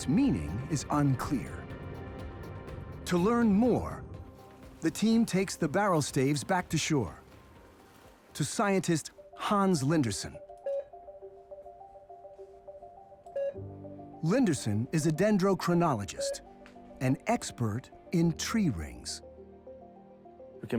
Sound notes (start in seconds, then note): 10.9 machine beeping